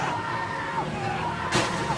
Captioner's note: splash